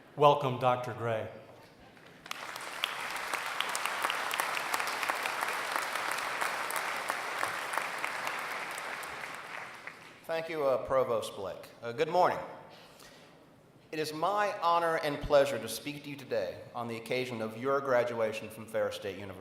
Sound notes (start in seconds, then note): 2.1 applause